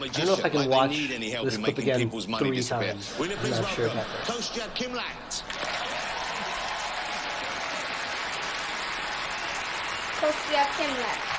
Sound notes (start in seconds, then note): 5.4 applause